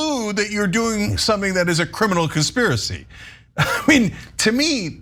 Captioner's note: laugh